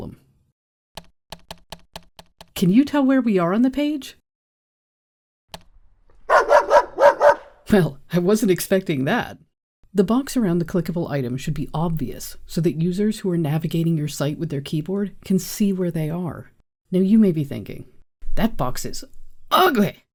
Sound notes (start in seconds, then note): 1.3 tab key pressed repeatedly; 6.3 enter key pressed, dogs barking